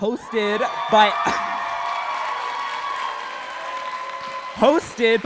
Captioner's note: cheering and applause